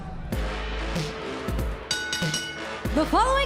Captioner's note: bell ringing